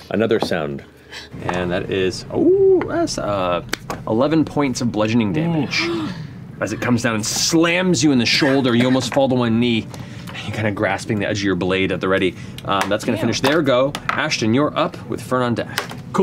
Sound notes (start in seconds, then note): 5.8 gasps